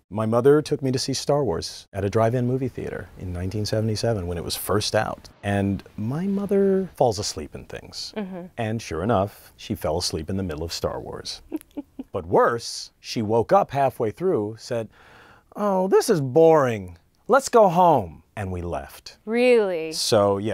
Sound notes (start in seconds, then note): 11.5 laughing